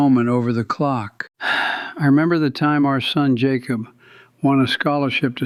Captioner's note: sighs